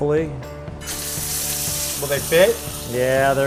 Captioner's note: sizzling